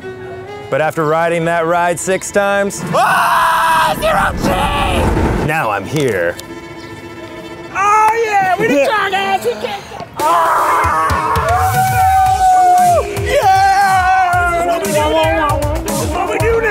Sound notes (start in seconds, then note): 2.8 screaming; 10.1 cheering